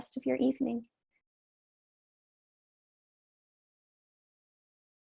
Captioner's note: silence